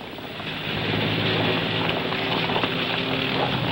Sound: boots stomping

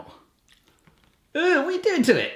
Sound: squish

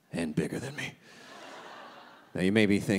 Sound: audience laughing

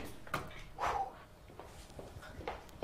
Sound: puffs

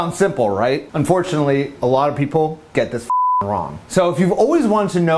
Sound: beep

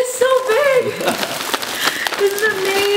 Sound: laughs

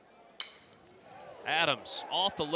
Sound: ball hitting bat

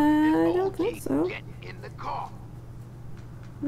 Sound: game audio

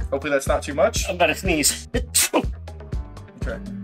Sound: sneezing

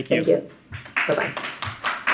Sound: audience applauds

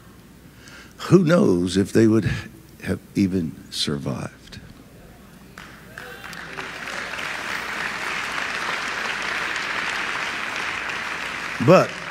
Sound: audience applauds

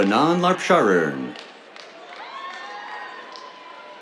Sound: cheers, applause

